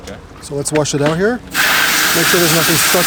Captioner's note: water splashing